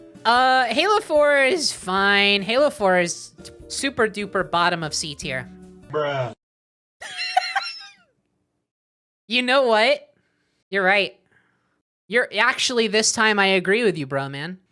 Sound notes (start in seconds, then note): 7.0 laughing